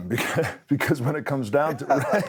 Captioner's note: laugh